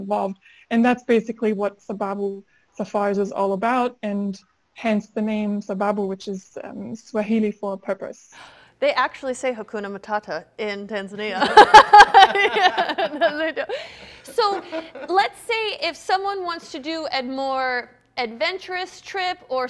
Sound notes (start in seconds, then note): 11.3 chuckles